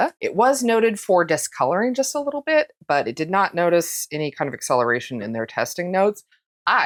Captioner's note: none